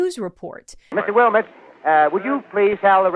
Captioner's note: grainy radio recording